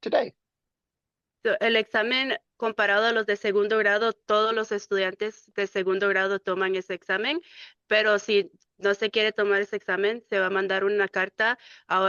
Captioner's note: speaking in Spanish